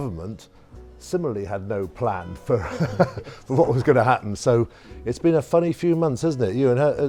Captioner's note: chuckles